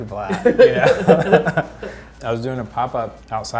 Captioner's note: both laugh